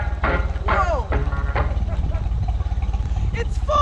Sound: laughing

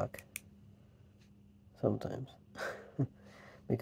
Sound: laugh

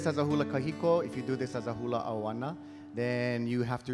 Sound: speaking in Hawaiian

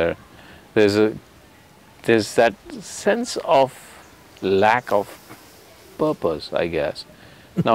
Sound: Sadhguru laughs

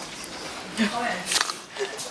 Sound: laughs

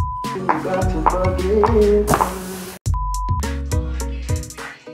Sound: beep; beep

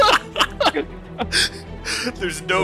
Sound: laughter

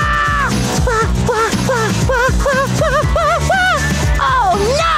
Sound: screaming; panting

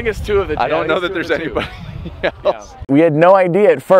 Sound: laughs

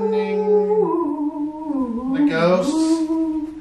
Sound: howls

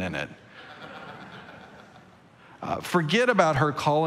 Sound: congregation laughing

